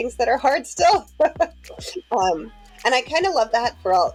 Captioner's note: laughing